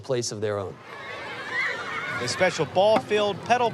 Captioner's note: children cheering